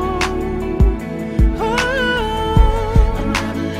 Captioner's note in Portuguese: Ohh